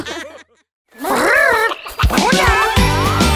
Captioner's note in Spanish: Risas; Sonido de loro; Música alegre